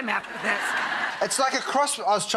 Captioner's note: audience laughs